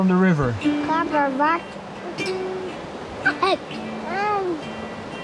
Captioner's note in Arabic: ثرثرات